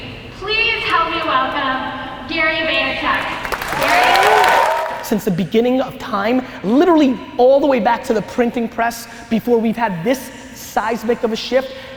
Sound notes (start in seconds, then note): 3.0 applause